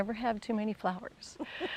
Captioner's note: laughs